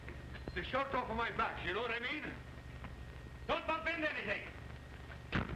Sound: whistling

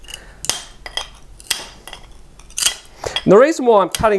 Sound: snapping

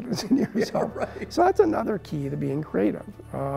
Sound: laughing

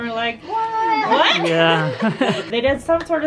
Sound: laughing

